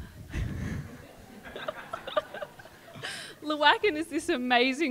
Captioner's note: audience laughs